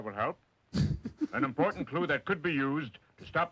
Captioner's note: chuckling